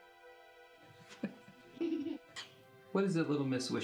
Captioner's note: chuckling